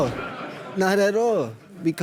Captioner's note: audience laughs